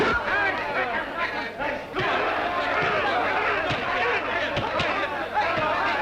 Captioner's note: all cheering